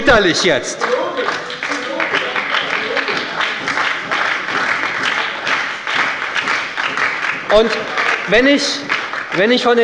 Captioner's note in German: Beifall bei der SPD - Zurufe von der CDU